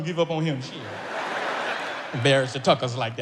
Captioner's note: audience laughs